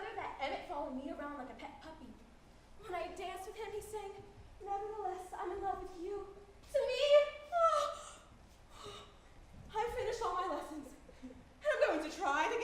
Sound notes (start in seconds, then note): 8.7 sighs